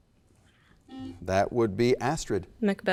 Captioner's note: button beeping